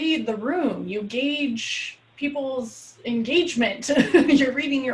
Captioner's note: laughs